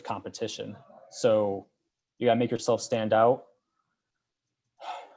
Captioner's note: sighs